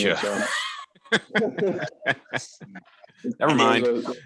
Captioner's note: light laughter